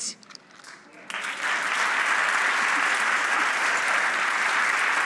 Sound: audience applauding

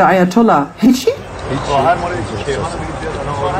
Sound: Speaking Farsi

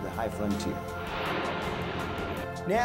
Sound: rocket boosters whooshing

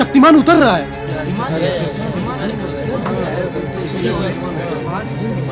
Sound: indistinct chatter

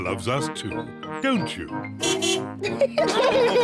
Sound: car horn beeps; all laugh

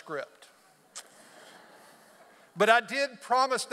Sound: audience laughs

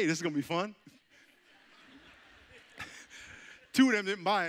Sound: audience chuckling

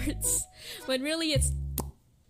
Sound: pop!

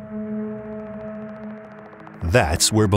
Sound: propellers clicking

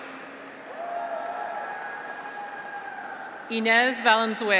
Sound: audience applauds; graduates cheer

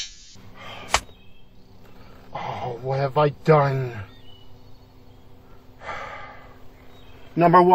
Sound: sighs in guilt

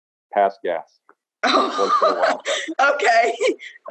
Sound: laughs

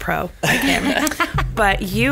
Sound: laughs

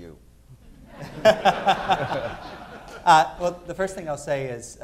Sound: laughter

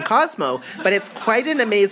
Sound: audience laughs

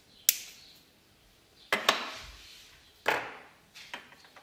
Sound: cracking; knocking

